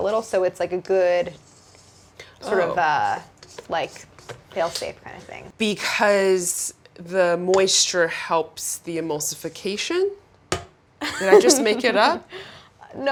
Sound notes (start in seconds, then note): 11.0 Claire laughs